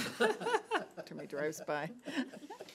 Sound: laughs

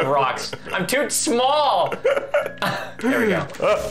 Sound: laughing; laughing

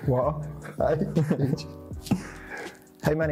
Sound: both laugh

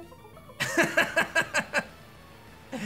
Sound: laughs

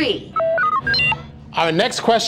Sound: beeping

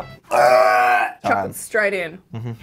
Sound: gagging

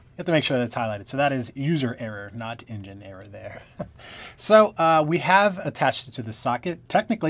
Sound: laughter

